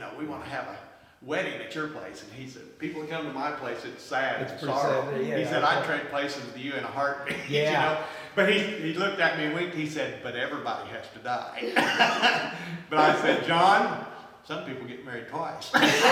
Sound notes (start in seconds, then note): 7.3 laughs; 11.6 laughs